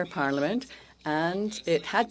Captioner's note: speaking French